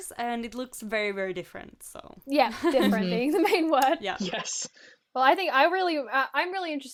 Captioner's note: laughter and agreement from hosts